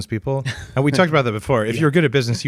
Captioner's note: laughs